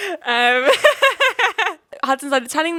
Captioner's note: laughing